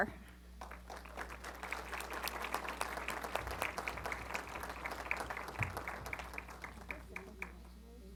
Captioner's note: applause